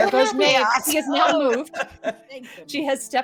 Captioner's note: laughing